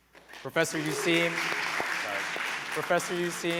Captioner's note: applause